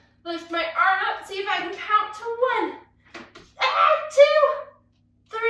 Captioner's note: screams